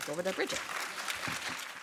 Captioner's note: applause